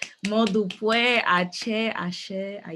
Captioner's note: non-english speech